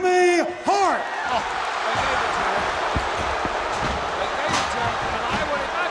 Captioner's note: applause